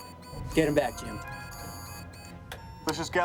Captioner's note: alarm